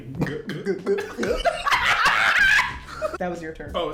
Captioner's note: laughs